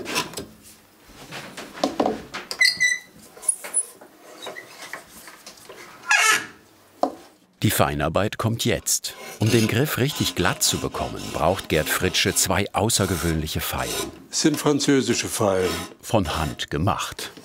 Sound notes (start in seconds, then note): 2.6 squeaking; 5.9 bright creaking